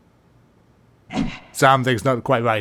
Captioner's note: grunts